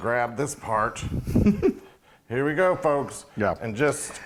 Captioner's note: laugh